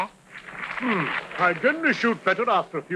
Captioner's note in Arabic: الحشد يصفق; يدندن